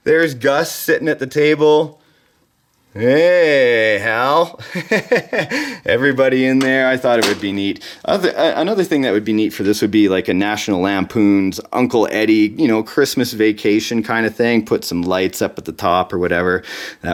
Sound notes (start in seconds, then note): 4.5 laughing